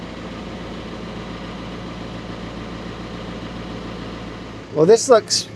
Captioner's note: engine humming continues